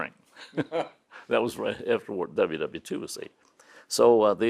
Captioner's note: both laugh